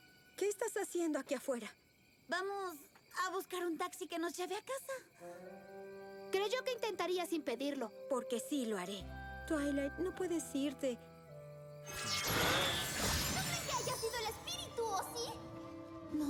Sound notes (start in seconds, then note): 11.9 zap